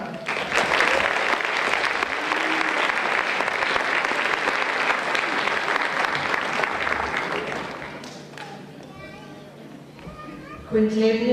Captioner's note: applause